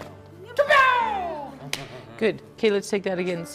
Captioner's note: both shouting